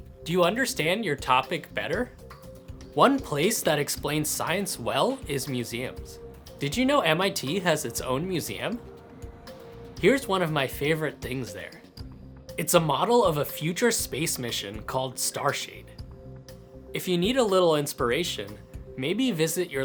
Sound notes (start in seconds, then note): none